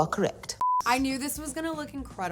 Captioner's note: screen beeps